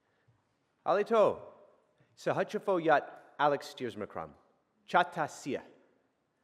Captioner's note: speaking in a foreign language